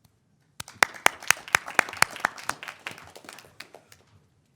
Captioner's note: applauding